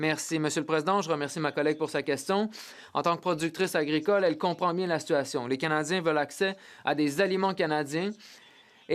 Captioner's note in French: voix de l'interprète